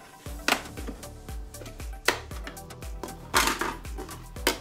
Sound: piece popping

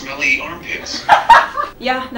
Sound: laughs

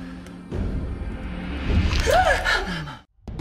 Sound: Sigyn gasps

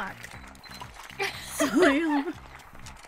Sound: laughter

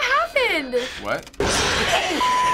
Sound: in game: growl

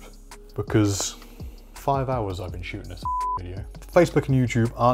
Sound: beep

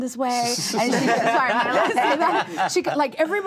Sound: all laugh

